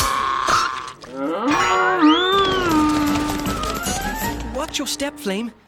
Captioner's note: mooing